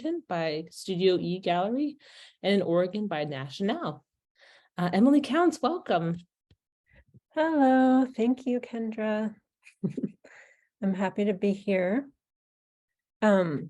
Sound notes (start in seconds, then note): 9.7 chuckling